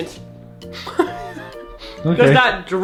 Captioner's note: laughs